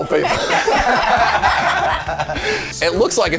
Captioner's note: all laughing